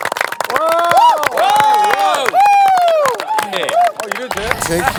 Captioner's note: passionate applaud